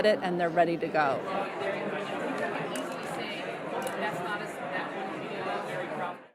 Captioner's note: crowd noise